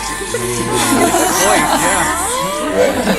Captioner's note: haha